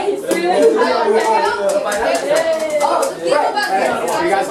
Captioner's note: applause and yays